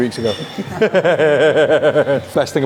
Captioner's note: group chuckles